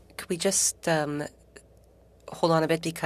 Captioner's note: speaking French